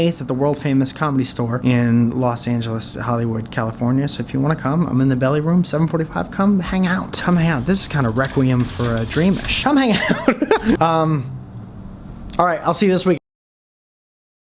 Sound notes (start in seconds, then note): 10.2 laughs